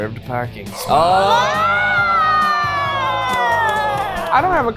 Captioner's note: people cheering